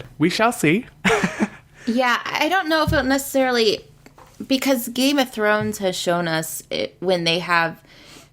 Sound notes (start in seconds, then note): 1.3 laughs